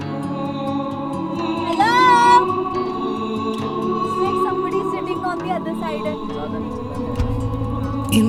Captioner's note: echoing